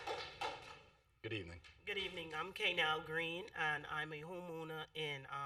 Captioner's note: applause